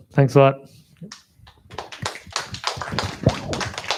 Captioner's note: applause